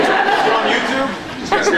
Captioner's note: laughs